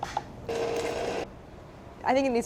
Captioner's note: motor running